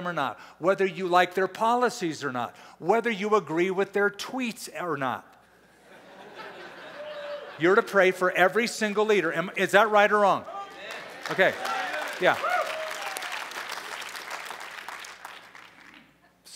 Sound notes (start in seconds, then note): 5.7 laughter; 10.6 applause, cheering, chatter